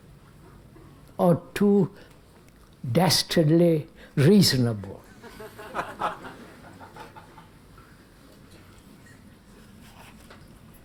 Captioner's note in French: Rires